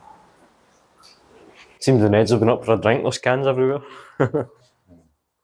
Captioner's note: laughter